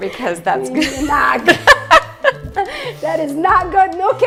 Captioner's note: laughs